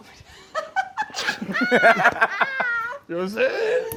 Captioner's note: laughter